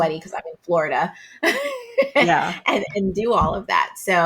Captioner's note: laughs